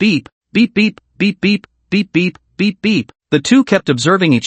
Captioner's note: beep, beep, beep, beep, beep; beep-beep, beep-beep, beep-beep, beep-beep